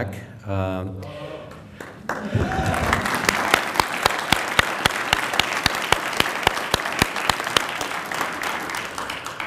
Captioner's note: applause